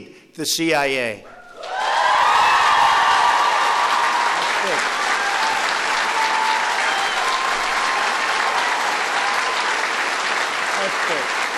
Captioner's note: applause